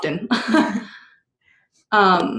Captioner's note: laughter